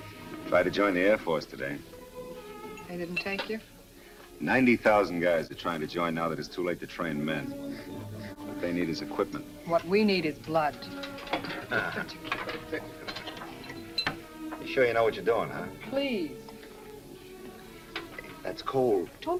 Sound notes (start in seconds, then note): 11.4 Vince chuckles